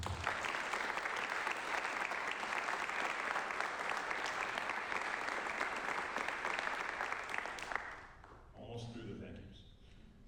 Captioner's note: applause